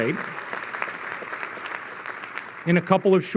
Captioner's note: audience clapping